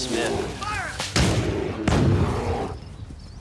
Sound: gunfire

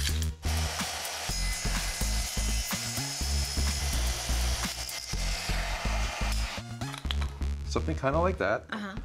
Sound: rythmic music; saw cutting

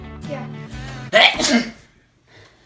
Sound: sneezes

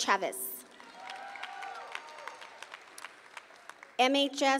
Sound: audience cheering

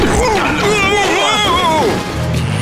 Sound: guard screams

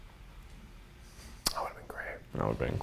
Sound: whispering

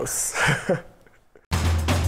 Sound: chuckling

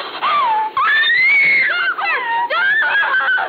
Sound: loud screaming

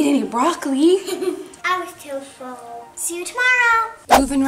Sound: giggles

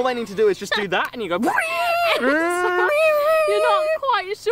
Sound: laughing; imitates bagpipes

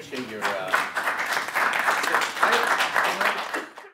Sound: applause

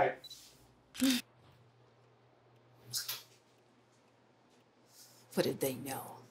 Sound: camera shutter clicking

